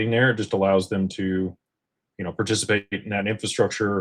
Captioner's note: none